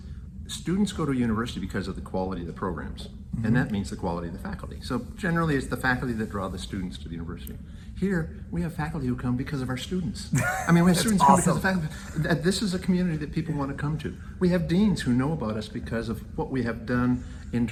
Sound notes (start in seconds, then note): 10.3 laughs